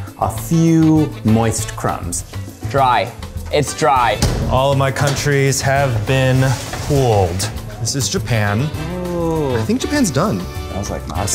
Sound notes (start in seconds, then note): none